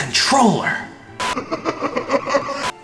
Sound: laugh

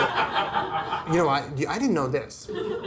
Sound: audience laughter

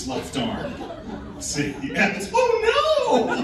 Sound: laughing

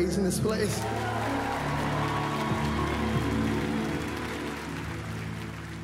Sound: applauses

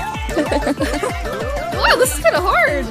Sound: giggles

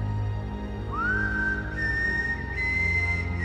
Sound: whistling

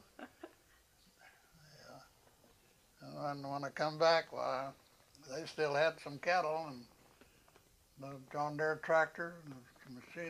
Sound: laughter

